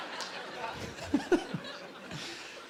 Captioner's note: laughing